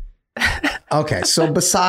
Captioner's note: laughing